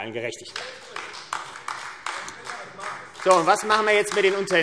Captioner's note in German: Beifall AfD